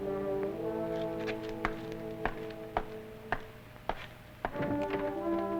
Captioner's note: footsteps receding